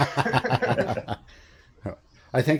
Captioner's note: laughter